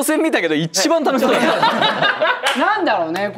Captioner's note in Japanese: 笑い